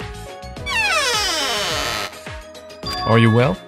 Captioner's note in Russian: Скрииип